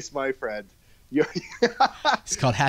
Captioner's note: laughing